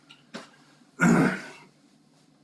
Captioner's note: cough